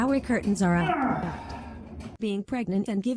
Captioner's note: groans in pain